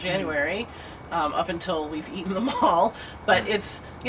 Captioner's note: laughter